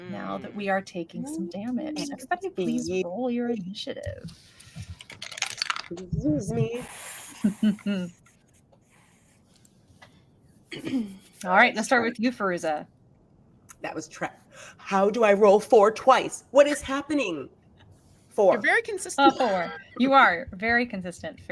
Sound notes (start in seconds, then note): 4.9 dice rolling; 7.4 chuckles